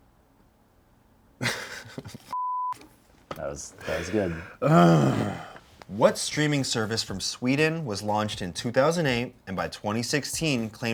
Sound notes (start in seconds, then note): 1.4 laughs; 2.3 beep; 3.9 groans